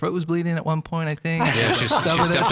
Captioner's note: laughing together